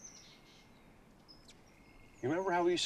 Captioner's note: bird chirp